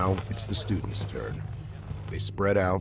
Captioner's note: voiceover